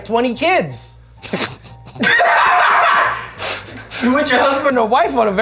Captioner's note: laughs